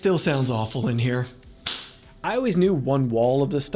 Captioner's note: echo Echo